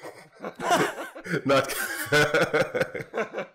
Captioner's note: laughter